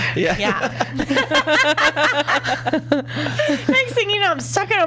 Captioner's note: laughs